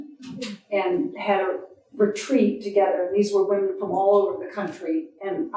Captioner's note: none